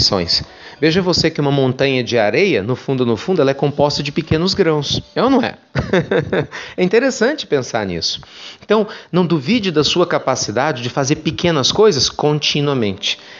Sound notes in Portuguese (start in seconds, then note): 5.7 risos